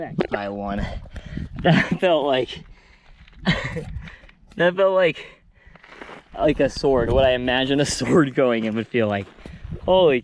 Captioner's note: laughs